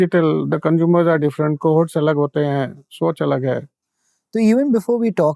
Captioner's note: speaking in Hindi